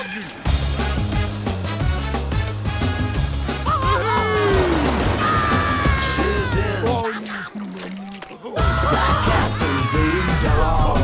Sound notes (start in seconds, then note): 8.5 screams